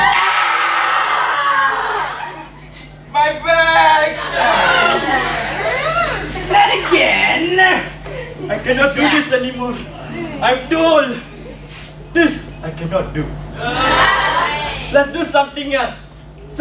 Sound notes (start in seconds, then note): 7.8 everyone sighs